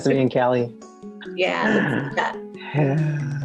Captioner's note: laughs